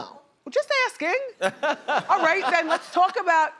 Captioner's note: laughter